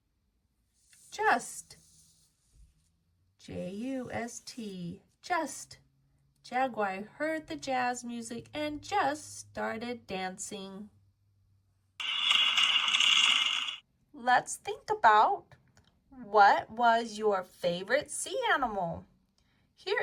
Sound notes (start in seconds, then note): 12.0 fireworks bang